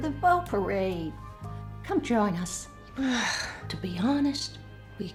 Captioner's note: sighs